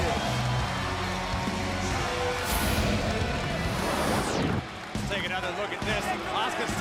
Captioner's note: crowd cheering